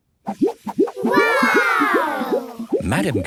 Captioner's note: laughs